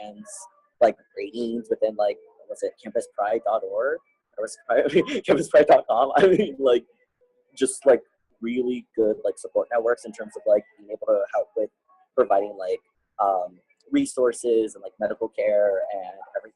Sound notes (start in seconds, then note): 4.7 laughing